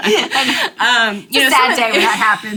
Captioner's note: laughing